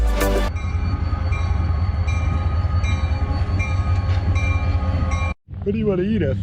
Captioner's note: train bell